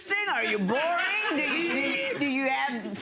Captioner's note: audience laughing